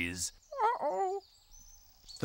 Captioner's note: moans